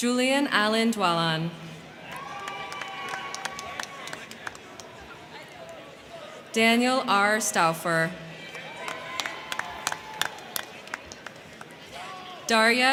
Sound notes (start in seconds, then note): 1.8 crowd cheering; 1.9 crowd clapping; 8.2 crowd cheering; 8.4 crowd clapping